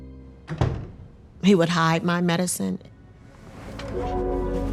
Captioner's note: door thuds